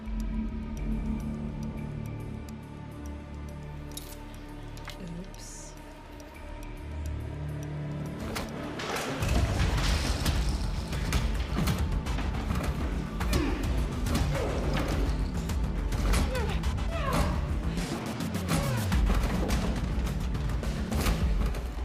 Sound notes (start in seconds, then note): 0.1 tense music continues; 7.2 tense music; 10.3 punches thudding; 13.7 blows echoing; 13.7 dramatic music